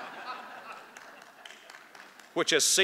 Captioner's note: laughter